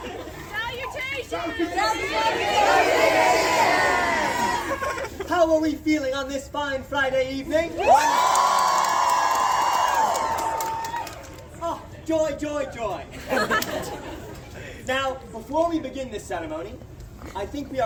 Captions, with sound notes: [crowd yells "Salutations"] How are we feeling on this fine Friday evening? [crowd cheers] Ah! Joy, joy, joy! [crowd laughs] Now, before we begin this ceremony,